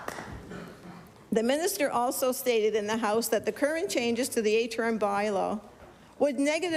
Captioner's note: applause